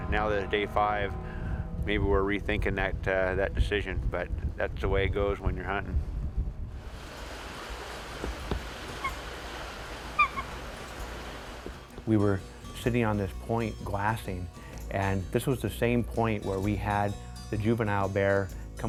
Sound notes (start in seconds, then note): 7.6 eagle squawks